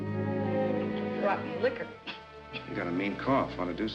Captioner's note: coughs